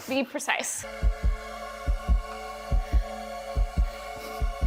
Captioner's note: heartbeat thumping